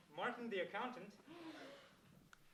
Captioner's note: gasps